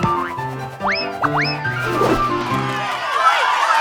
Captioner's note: cheers